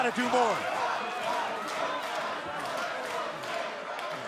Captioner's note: crowd cheering